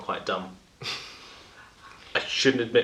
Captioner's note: laughs